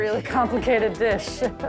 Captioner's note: laughing